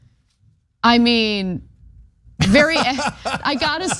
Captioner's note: laugh